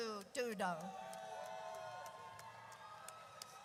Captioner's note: audience cheers